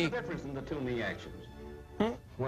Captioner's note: none